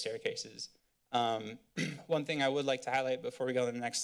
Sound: clears throat

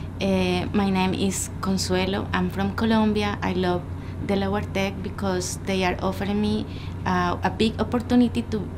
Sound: in English

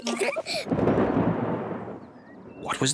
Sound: both giggle; thunder rumbling

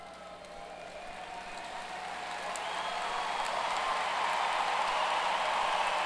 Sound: audience cheers and applause

